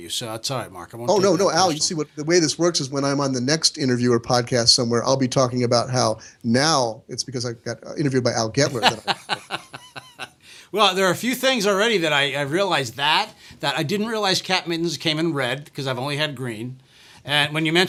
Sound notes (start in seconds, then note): 8.7 laughs